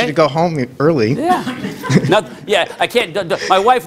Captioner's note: laughter